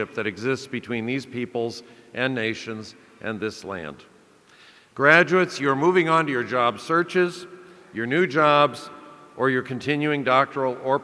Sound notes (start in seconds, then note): none